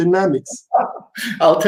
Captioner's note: laughs out aloud